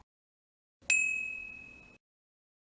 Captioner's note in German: ping